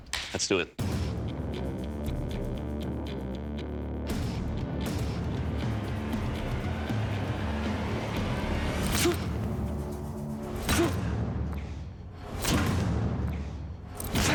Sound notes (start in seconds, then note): 0.3 suspenseful music playing; 8.5 grunting